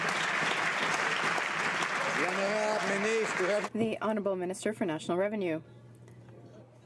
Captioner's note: some Applause